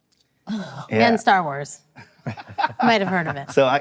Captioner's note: laughing